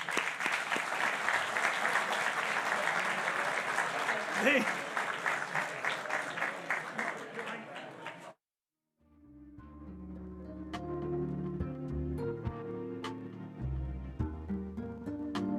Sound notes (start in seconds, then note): 4.1 applause